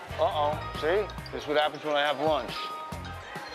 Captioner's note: cell phone rings